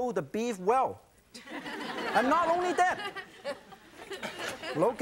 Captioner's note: audience chuckles